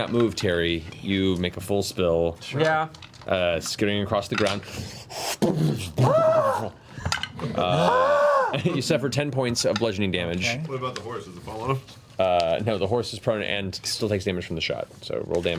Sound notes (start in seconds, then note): 7.6 screams